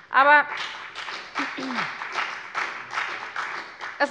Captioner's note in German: Beifall bei der FDP